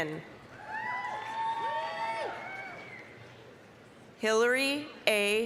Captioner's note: applause, cheering